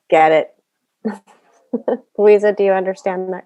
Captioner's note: laughs